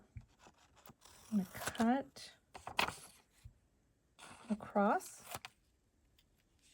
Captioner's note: paper cutting